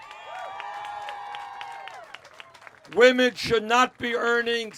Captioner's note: cheers